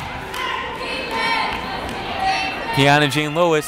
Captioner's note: cheering